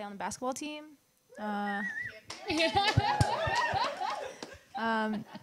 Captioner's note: whistling and cheering from the audience